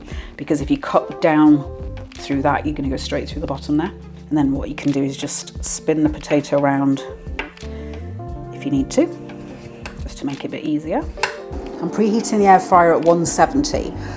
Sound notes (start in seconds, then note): 11.0 air fryer in background